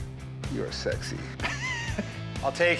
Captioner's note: laughs